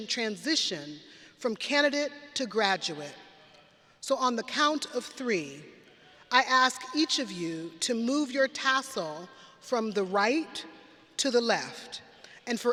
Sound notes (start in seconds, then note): none